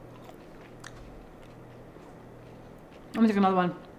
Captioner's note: chewing